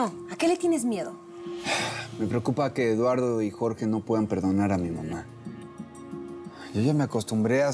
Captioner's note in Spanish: él exhala